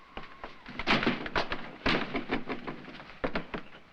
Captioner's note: windows bang